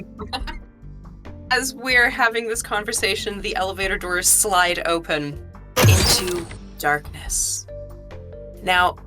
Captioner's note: door swoosh